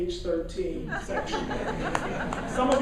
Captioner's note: laughing